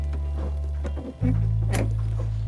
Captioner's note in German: Klappern